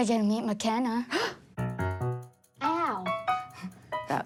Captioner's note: gasps